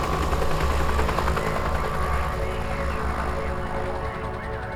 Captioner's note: police radio chatter